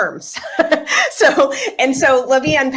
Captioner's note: laughter